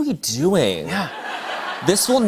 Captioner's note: laughter